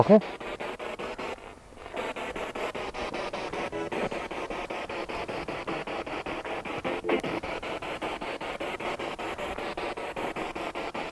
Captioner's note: noise of the spiritbox in the background